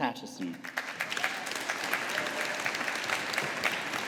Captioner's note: audience applauding